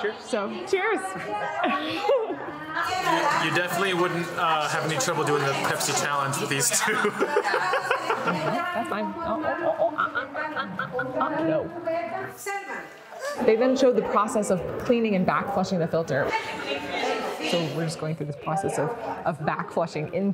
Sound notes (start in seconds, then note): 6.5 laughs; 10.8 speaking foreign language